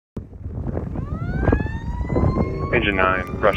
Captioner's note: wind whooshing; firetruck siren wailing